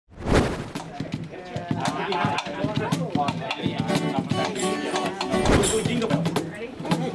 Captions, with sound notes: (Students and staff chatter.) >We're doing Jingle Bells. >Ready?